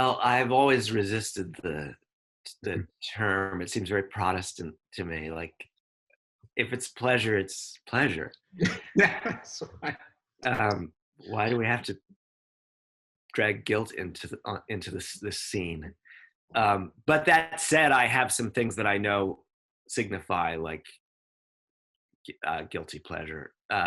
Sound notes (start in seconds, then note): 8.6 laughs